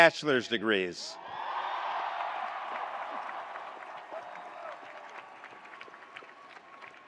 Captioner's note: attendees cheering; attendees applauding